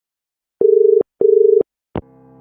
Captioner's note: dial tone